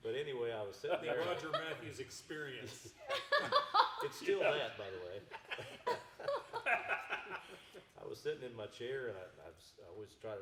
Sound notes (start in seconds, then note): 3.0 laughing; 5.5 everyone chuckling